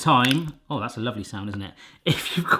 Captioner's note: splattering